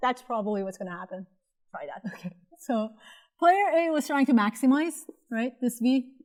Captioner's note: laughter